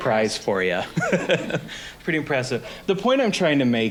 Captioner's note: laughing